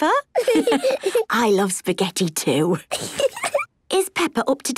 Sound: laughs

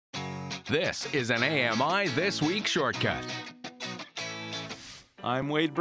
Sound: voiceover

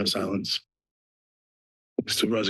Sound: pause

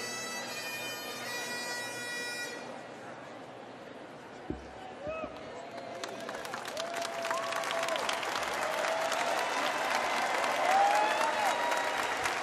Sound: cheers and applause

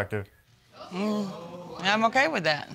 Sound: audience exclaims

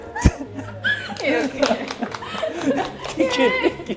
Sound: passionate applause 👏

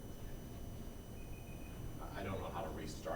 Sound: timer beeping

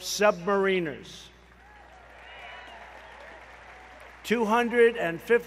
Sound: applause

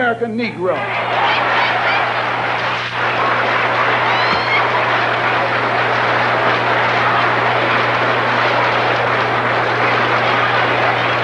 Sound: applause

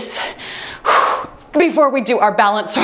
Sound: exhales

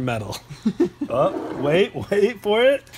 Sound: laughs

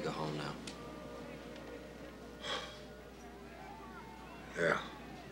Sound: deep sigh

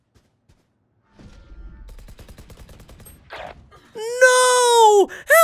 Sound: gun firing

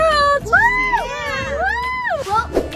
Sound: all cheer

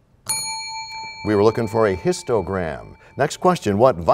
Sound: bell rings, time expires

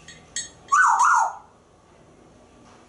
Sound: whistling

